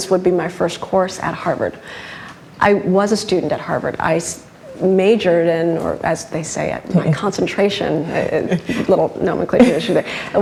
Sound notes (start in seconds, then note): 8.3 laughs